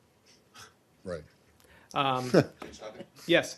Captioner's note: laughter